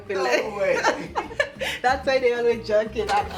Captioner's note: laughing